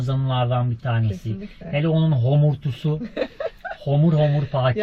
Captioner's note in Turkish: kahkaha